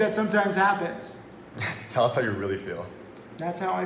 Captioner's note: chuckles